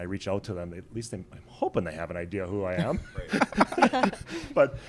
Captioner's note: laughs